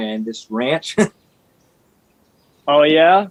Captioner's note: laughs